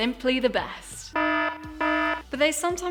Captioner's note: horn honking